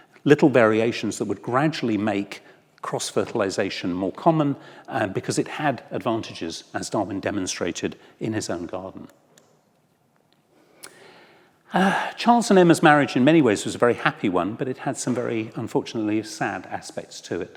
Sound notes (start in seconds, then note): 11.7 sighs